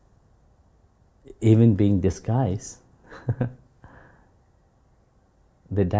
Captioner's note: slight laugh